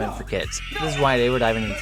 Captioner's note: kids screaming